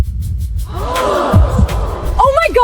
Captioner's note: gasping